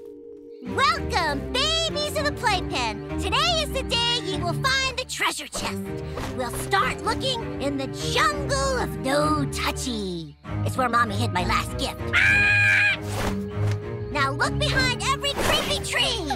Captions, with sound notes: Welcome babies of the playpen. Today is the day ye will find the treasure chest. We'll start looking in the jungle of No Touchy. It's where Mommy hid my last gift. [squawking] Now look behind every creepy tree.